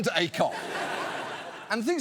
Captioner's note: audience laughs